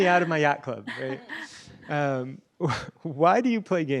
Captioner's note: laughter